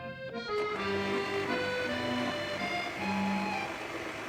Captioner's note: mixer buzzes